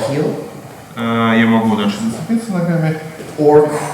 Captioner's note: speaking in a foreign language